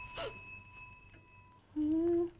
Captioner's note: bell ringing; Nan gasping; woman vocalizing